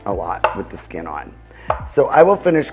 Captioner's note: knife thuds